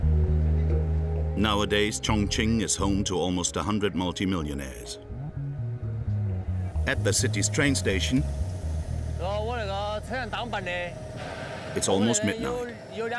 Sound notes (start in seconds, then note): 0.2 soft intriguing music; 9.1 speaking foreign language